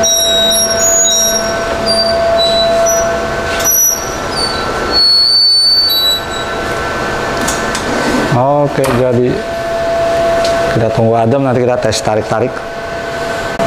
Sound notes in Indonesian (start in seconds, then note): 0.0 suara beep; 0.0 suara mesin pres; 0.0 suara beep; 7.0 suara mesin pres